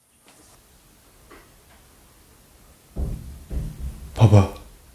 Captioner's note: thumping sounds are being faintly heard